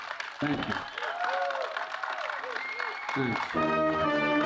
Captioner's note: applause